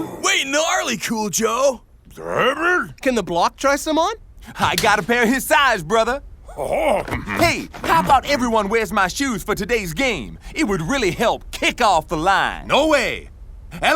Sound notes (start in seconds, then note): 0.0 players oohing; 2.2 Blok grunting